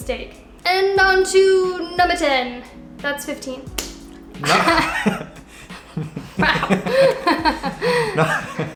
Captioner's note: laughter